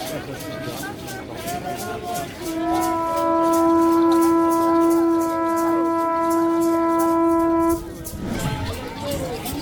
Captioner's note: horn Sound